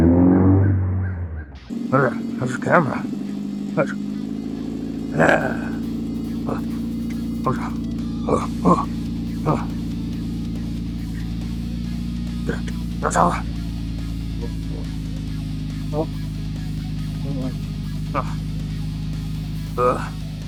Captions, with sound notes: (engine revving) Excuse me, good sir, have you seen my camera device? Watch. (grunting) (grunting)